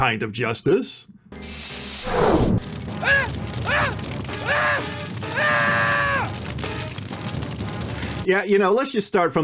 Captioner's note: agonized screaming